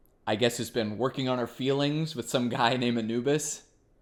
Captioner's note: none